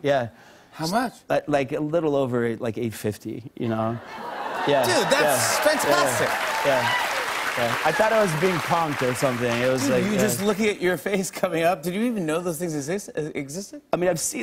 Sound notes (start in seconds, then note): 4.8 cheers and applause